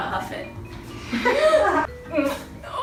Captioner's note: laughs